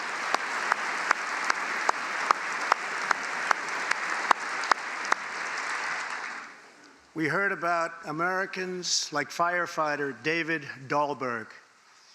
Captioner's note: applause